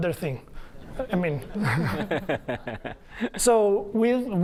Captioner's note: laughter